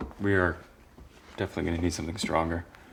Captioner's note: none